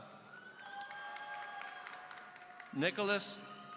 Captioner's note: audience applauding